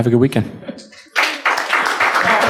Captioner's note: applauding